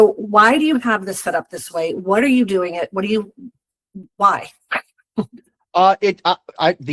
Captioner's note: chuckles